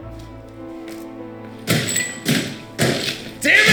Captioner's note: loud banging, clatter